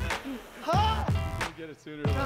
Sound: yell

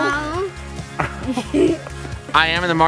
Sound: laughs

